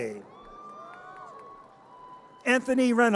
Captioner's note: audience cheers